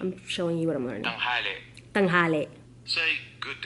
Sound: phone speaking Tagalog & repeats it back

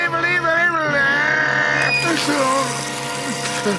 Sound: moaning

